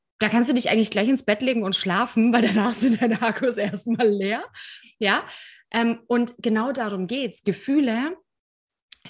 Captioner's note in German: lachen